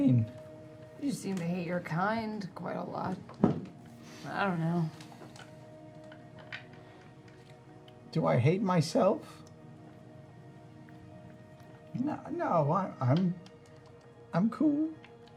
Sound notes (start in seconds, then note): none